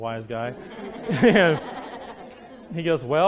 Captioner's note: laughing